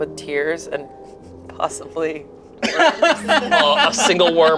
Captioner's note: laughs